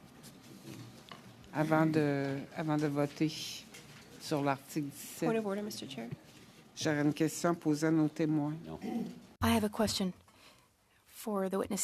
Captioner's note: speaking French